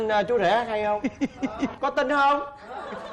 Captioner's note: laughing